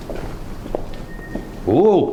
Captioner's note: whistling sound